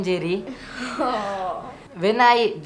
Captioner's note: students laughing